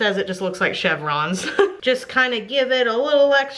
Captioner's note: laughs